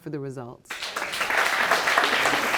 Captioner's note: audience clapping